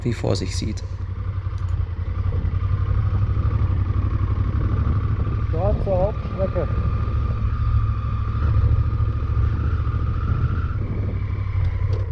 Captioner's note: engine noise